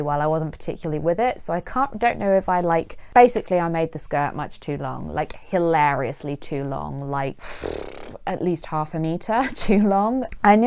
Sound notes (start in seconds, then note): 7.4 blows raspberry